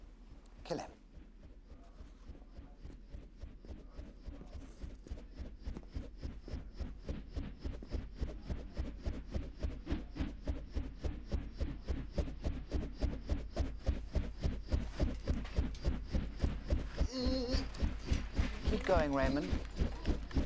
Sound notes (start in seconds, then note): 1.6 fan blades whirring; 7.2 whirring grows louder